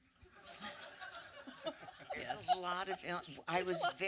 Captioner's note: light laughter